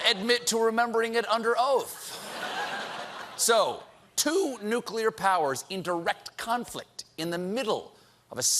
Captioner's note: laughter